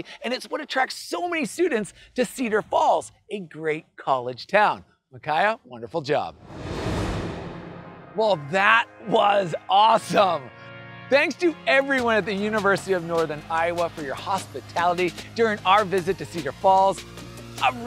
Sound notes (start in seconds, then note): 6.4 graphics whooshing